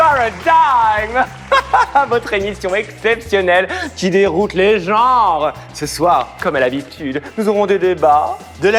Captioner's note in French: rires